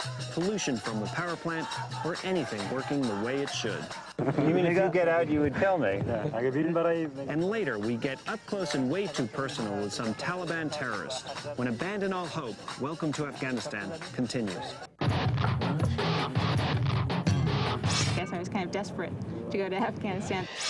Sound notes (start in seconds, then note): 6.1 men speaking in foreign language; 14.8 dramatic instrumental music; 20.5 dramatic instrumental music